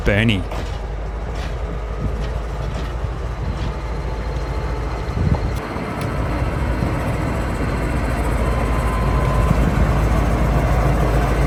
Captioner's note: train noises